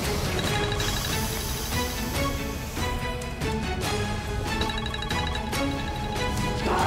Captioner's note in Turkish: telefon sesi